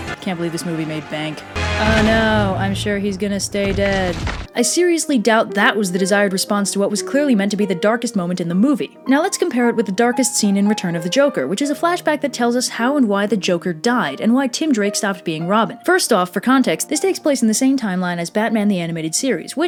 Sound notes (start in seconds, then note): 0.0 inspirational Music; 2.4 Sarcastic